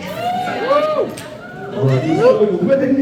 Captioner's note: crowd cheers